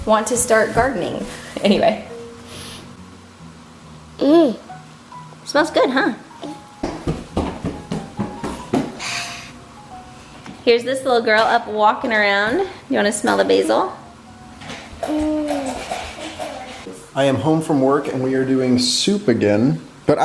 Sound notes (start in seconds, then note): 2.4 sniff; 9.0 sniff and exhale